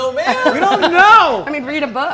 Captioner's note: laughs